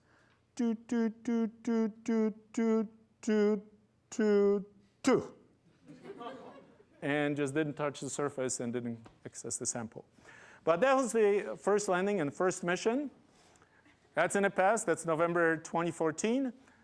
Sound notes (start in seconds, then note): 5.8 laughter